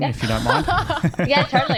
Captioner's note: laughing